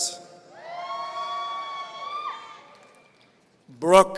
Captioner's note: audience cheering